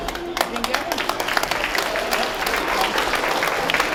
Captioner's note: applause